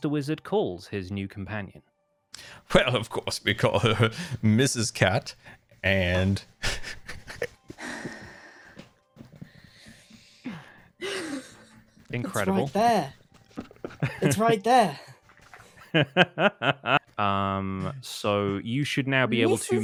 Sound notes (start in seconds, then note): 6.6 snickers; 7.5 sighs and wheezes; 15.7 laughs